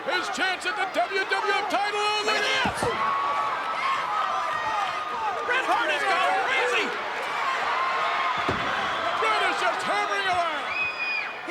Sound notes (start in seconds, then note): 3.0 crowd yelling